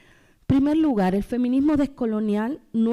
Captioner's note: speaking spanish